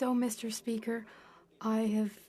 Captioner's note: speaking FRENCH